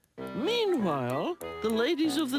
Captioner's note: knitting needles clack; playful music